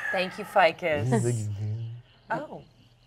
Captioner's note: grumbles